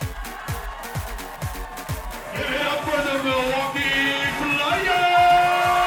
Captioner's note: bright upbeat music continues; crowd cheering